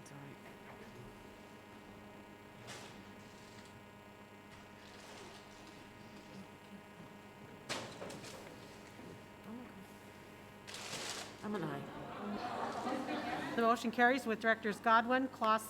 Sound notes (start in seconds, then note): 11.5 people chattering